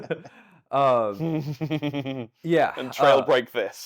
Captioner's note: laughing